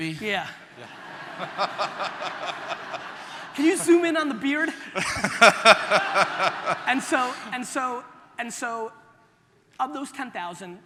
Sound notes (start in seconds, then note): 0.8 audience laughter